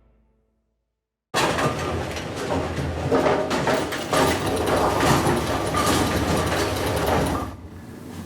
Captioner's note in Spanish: Ruidos en la bolera